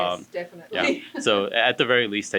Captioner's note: lady laughs